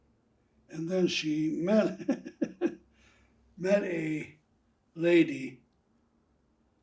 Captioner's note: laughing